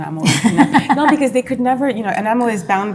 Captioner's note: laughs